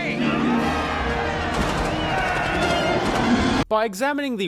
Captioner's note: crowd: "Yay! Yeah!"